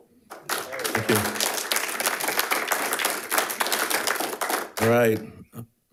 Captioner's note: audience applauding